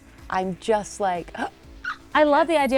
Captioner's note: gasps